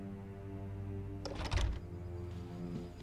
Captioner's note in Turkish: Kapı açılma sesi